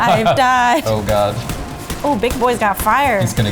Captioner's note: gunshots